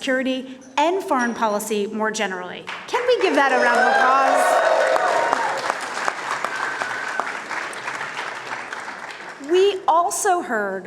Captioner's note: cheers and applause